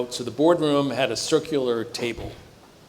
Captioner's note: none